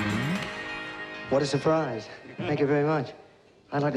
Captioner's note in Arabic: هتافات الجمهور